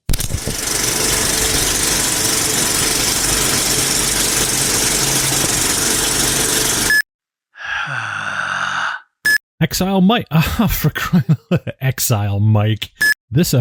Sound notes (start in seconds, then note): 0.1 whooshing noise; 6.6 beeping; 7.5 heavy breathing; 10.5 laughing